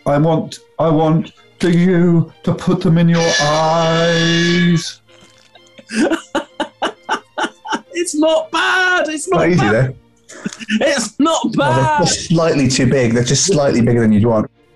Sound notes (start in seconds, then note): 2.8 klaxon; 5.1 laughing